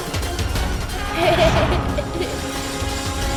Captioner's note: laughs